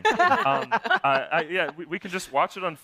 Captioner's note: laughter